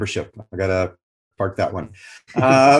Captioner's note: laughs